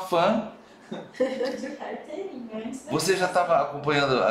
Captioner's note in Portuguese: risos